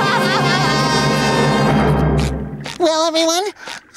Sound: screams and sobs

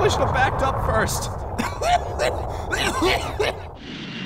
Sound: hacking coughs

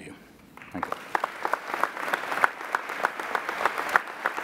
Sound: applauding

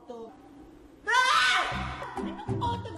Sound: screams

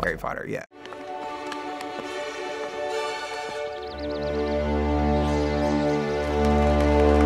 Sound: gentle music; birds chirping; applause

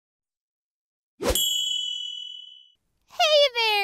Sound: ringing

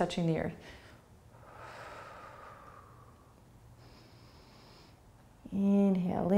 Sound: breathing

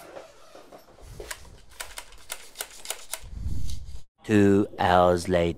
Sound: scraping

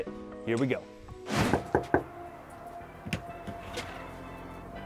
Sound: knocks

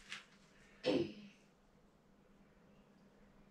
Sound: cough

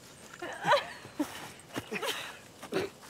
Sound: laughs

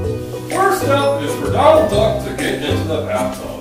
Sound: voiceover

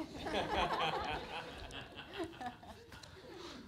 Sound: laughing

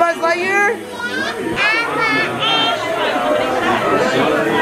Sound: babbles

